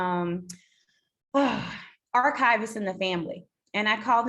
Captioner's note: sighs